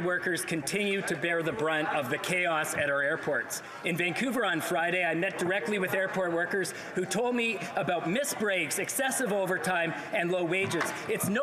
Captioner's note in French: voix de l'interprète